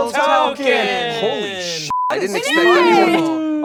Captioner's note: beeping